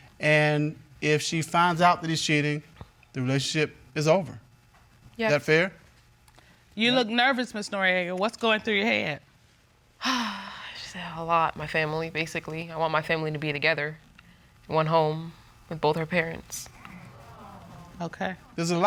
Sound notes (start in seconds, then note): 10.0 sighs; 16.6 audience murmuring